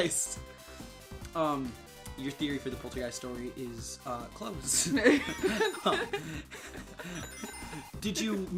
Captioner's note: both laughing